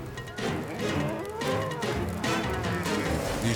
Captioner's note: cattle bellowing